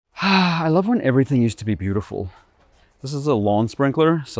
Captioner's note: sighs